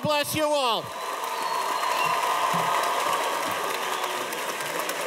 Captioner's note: cheers and applause